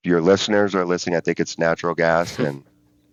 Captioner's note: chuckles